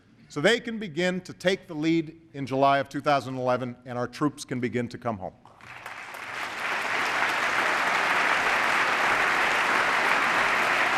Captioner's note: applause